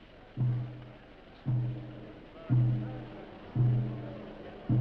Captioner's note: slow percussive music; people chattering